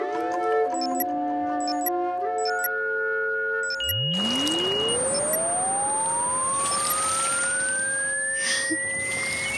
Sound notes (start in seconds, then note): 0.1 machine switching on; 2.4 beeping sound